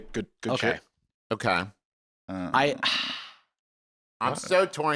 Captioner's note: sighs